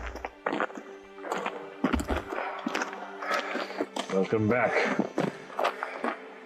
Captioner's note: footsteps